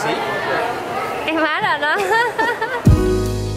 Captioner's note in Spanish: risas